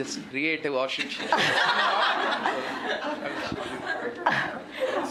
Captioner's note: laughter